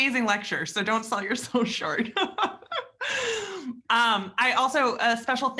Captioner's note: laughs